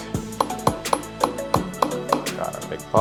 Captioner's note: blender tapping